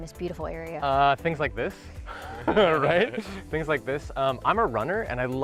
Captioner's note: laughs